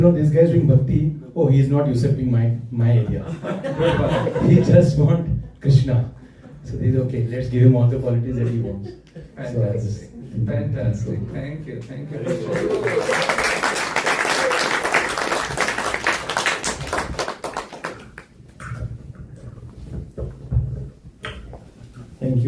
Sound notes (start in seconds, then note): 16.5 applause